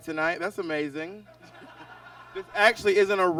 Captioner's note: audience laughs